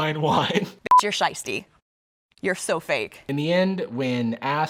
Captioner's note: beep